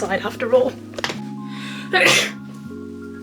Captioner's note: sneezes